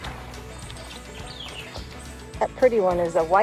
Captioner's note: birds chirping